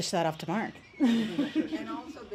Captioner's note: audience laughs